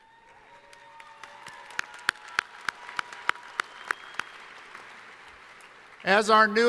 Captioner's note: cheering